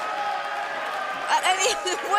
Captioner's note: cheers & applause